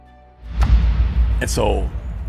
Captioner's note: arrow strikes